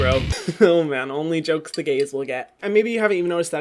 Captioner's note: laughs